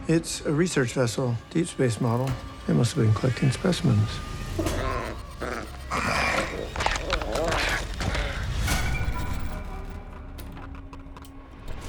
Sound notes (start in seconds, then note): 4.5 growling; 6.3 clicking; 8.7 sinister music